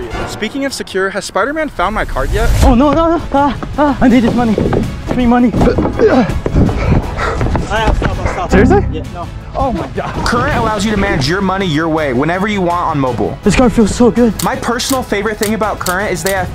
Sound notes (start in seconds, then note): 6.0 panting